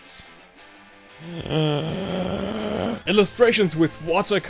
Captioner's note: inhales